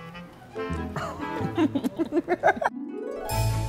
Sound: both laughing; upbeat orchestral music

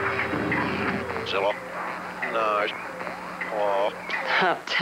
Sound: speaking alien language

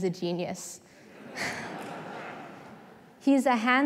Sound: laughter

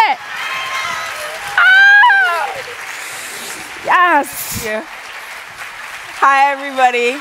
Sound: cheers and applause

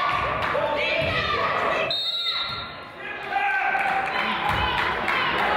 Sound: claps; whistle blows

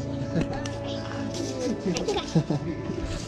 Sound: chuckles

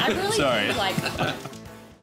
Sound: both chuckling

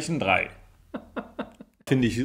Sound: laughs

